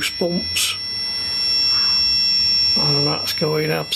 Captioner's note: high pitched beeps